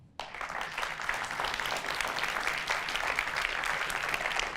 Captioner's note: audience applauds